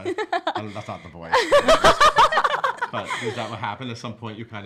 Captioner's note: laughs